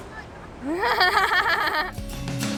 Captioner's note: risas